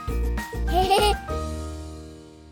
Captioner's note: laughter